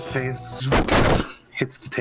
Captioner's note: zzzpoofff